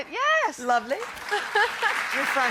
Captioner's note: applause